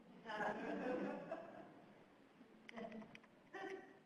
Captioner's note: scattered laughter